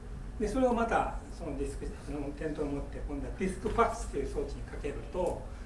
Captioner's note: speaking in foreign language